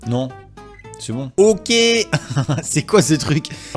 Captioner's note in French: rires